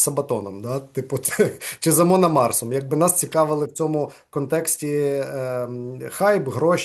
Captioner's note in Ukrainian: сміється